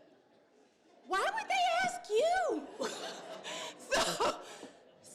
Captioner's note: laughter